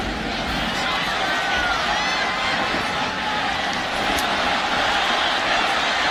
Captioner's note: applause